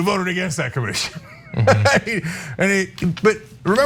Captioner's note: laugh